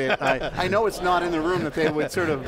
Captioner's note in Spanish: Risas